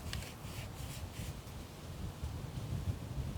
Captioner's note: brushing